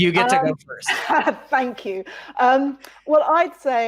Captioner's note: laughs